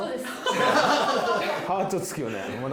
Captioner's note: laugh